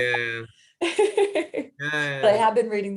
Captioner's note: laughs